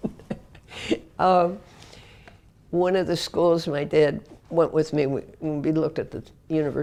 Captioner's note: laugh